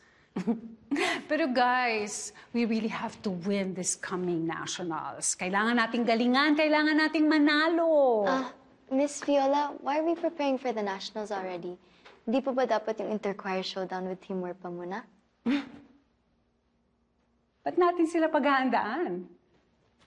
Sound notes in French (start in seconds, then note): 0.4 chuckles; 15.3 scoffs